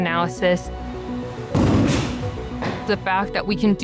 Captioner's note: sound of baseball hitting soft wall